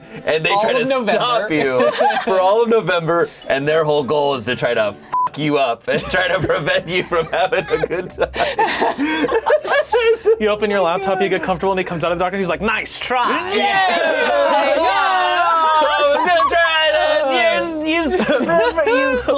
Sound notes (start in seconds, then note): 0.0 laughs; 5.1 beep; 9.7 laughing